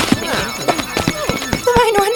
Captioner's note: clinking, clasping; chime